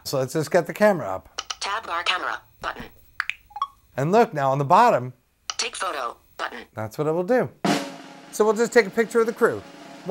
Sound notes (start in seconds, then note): 3.2 click, blip